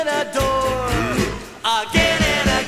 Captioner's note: comedic guttural deep voice sound